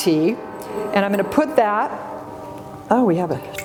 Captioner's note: train whistles